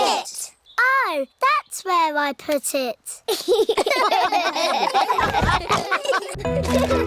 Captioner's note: all laugh